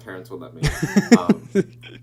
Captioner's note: laughing